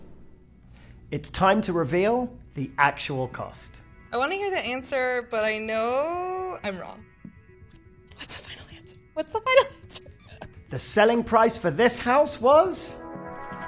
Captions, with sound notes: - It's time to reveal the actual cost. - I wanna hear the answer, but I know I'm wrong. What's the final answer? What's the final answer? [chuckles] - The selling price for this house was